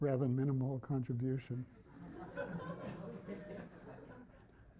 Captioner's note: laughter